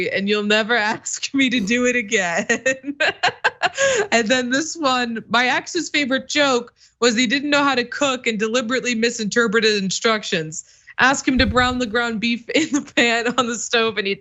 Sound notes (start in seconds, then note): 1.4 laugh